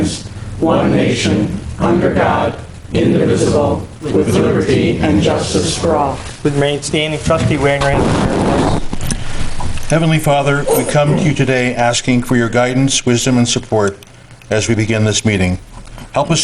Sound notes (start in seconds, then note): 8.7 interruption in mic